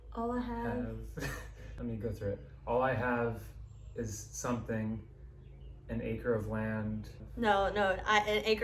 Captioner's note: laughs